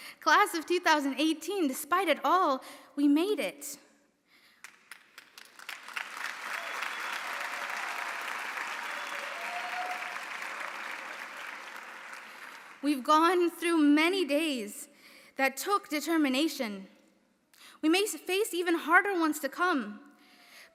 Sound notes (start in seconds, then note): 4.6 audience applauding; 5.8 audience cheering